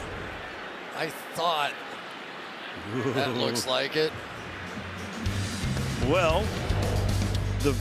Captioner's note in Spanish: risas